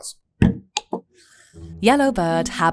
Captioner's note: bottle thuds and scrapes